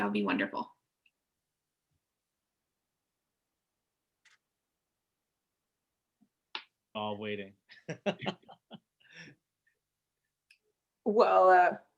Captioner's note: chuckling